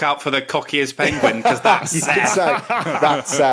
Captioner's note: others laughing